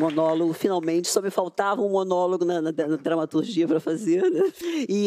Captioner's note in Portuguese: aplausos